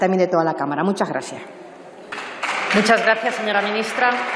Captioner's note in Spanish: Aplausos